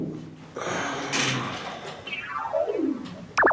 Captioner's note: sigh